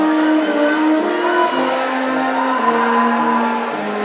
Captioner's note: audience cheering